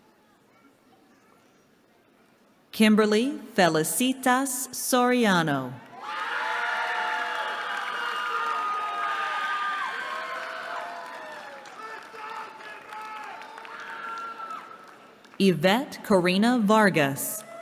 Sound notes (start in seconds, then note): 5.9 cheering; 17.4 cheering